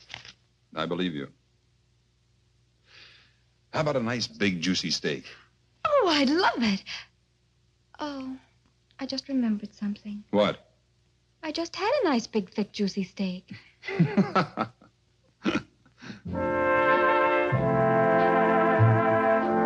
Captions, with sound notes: And I believe you. How about a nice, big, juicy steak? Oh, I'd love it. Oh, I just remembered something. What? I just had a nice, big, thick, juicy steak. (Edward laughs) (soft orchestral music)